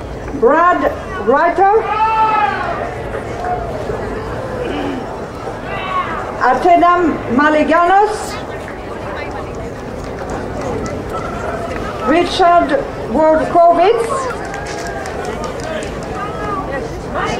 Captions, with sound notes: Brad Rogers. (crowd cheering) Antenum Malygalos. Richard Corbez. (crowd cheering)